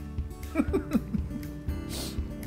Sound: laugh

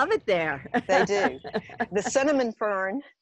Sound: laughing

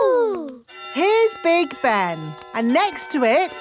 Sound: clock chimes

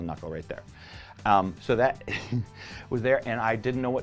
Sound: giggles

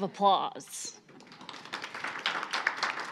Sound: audience applauding

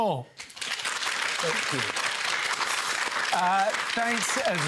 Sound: applause

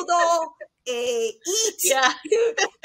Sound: foreign language

